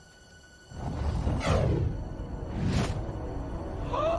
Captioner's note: object whooshing; Jake gasps